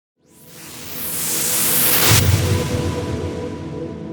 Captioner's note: whooshing